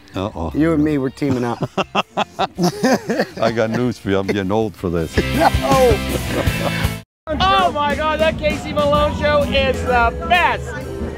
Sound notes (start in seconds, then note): 1.3 laughing; 5.4 upbeat music